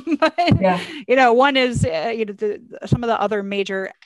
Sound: laughs

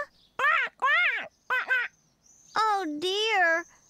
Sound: quack, Quack, Quack-Quack!

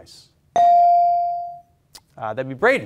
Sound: beep

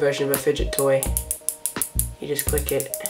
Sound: more clicking noises

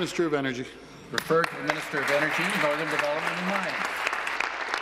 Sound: applause

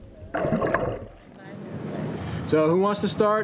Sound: water sounds

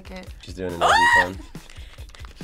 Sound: React screams; sniffing

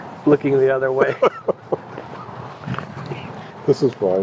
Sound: laughing

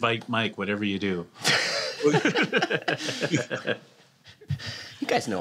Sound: laughter

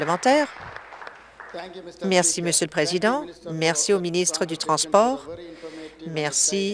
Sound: applause

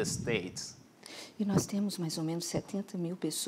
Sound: speaking portuguese

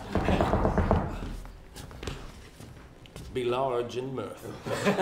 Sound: knocking

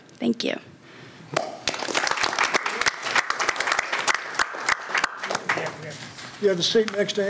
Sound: applause

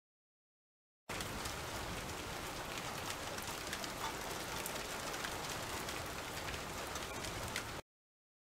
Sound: sound of rain

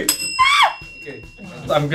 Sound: screams

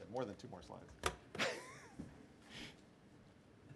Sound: laughter

